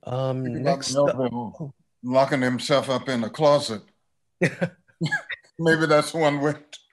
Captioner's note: chuckles